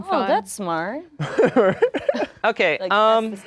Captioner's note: laughing